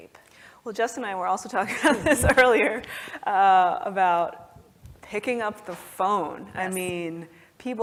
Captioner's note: laugh